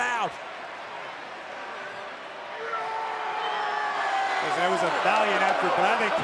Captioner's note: applause